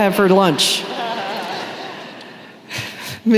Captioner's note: laughter